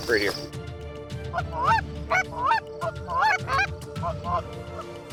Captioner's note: goose calls